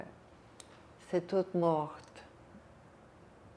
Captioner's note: french